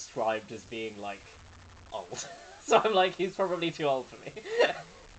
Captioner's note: laughing